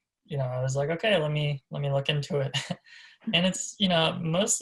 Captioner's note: laughs